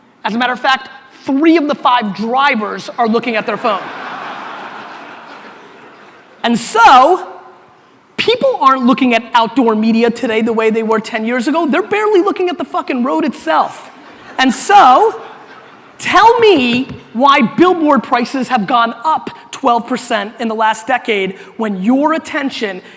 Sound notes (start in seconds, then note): 3.4 audience laughter